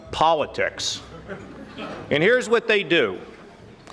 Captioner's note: audience laughing